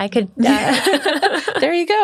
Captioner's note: laughing